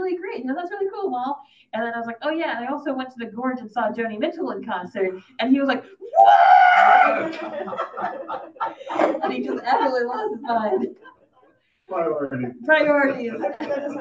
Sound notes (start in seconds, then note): 7.0 audience laughing